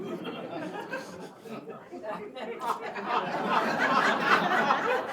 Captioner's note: laughter